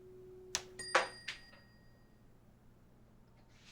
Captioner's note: ringing